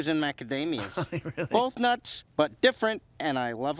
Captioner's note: laughing